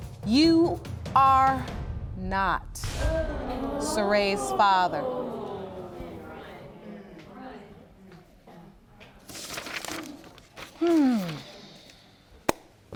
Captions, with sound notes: You are... Not Serea's father. (JUDGE LAKE SIGHING)